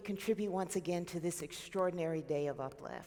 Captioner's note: none